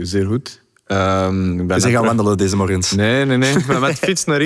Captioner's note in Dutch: lacht